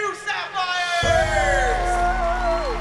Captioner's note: cheering